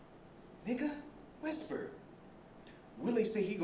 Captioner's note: whispering